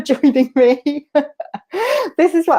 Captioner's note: laughter